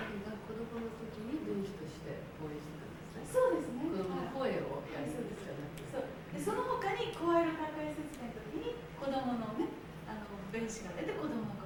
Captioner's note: conversing in Japanese